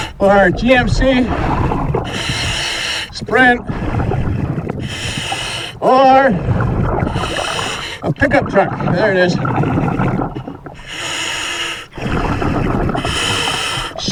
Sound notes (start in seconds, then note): 0.0 regulator hissing; 0.0 water burbling; 5.0 regulator hissing; 5.0 water burbling; 10.9 regulator hissing; 10.9 water burbling